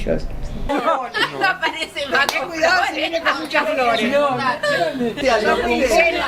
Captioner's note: laughs